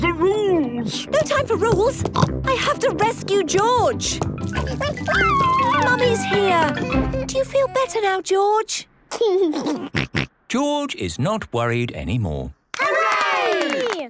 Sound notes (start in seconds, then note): 2.1 snorts; 4.5 George crying; 9.4 giggles